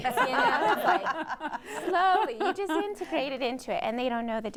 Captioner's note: laughter